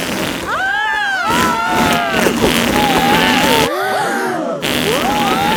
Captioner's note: both screaming; crowd gasps